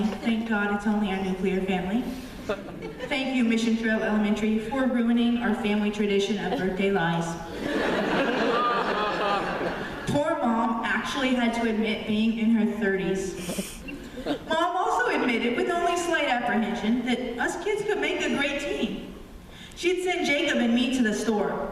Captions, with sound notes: Thank God it's only our nuclear family. Thank you, Mission Trail Elementary, for ruining our family tradition of birthday lies. (laughter) Poor Mom actually had to admit being in her thirties. Mom also admitted, with only slight apprehension, that us kids could make a great team. She'd send Jacob and me to the store.